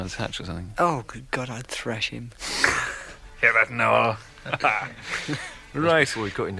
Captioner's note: laughter